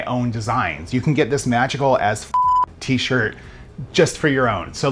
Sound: beep

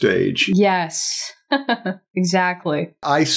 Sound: chuckles

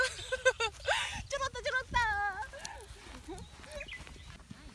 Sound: laugh

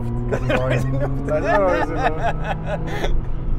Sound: laughter

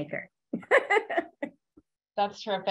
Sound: laughs

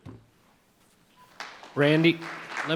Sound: audience applauding

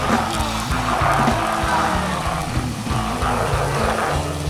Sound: zombies moaning

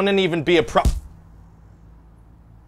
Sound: smack

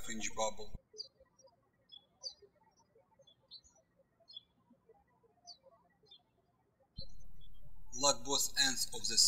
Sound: birds chirping

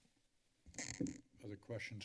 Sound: microphone rustling

